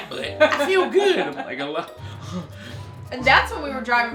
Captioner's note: groaning